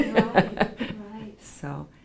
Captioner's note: laughs